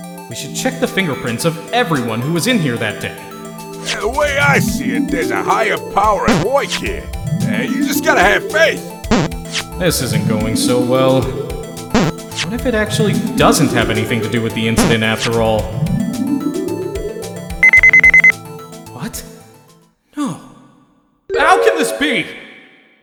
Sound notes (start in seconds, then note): 3.7 scanning sound; 6.2 negative buzz!; 9.0 scanning sound; 9.0 negative buzz!; 11.9 negative buzz!; 12.0 scanning sound; 15.3 negative buzz!; 15.7 scanning sound; 17.6 confirming beeps!